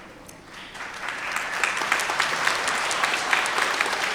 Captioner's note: everyone applauding